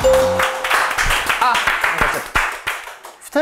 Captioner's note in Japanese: 拍手